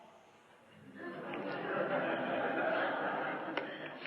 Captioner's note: laughter